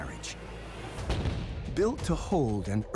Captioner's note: fires